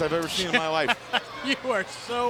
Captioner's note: Eric chuckles